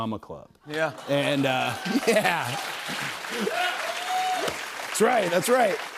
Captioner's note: cheers and applause